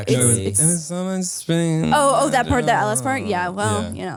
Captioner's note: whines